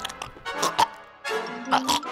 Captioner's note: gags